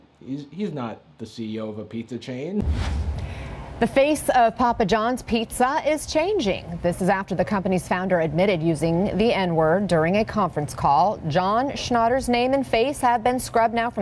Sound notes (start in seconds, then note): none